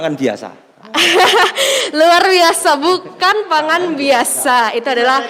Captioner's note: laughing